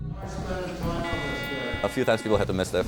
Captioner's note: metal detector beeps